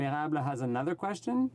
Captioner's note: speaking French